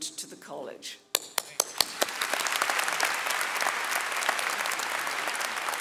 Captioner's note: audience applauding